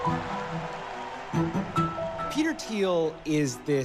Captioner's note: cheers and applause